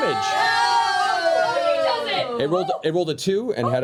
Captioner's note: cheering